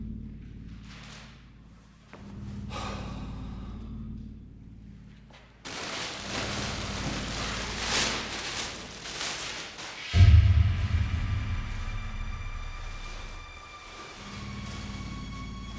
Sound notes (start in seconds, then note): 3.0 Danny sighs; 5.6 bag rustling; 9.8 light dramatic music